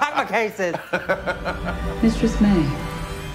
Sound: laughing

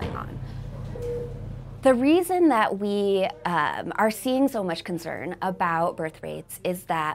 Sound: machine beeping

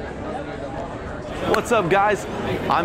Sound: crowd chatting

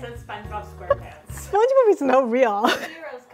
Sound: laughing

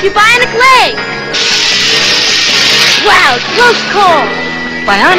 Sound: braking sound

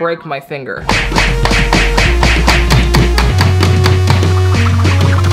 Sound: hammering sounds

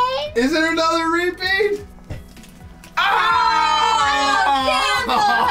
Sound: screams

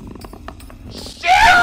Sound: game creaks

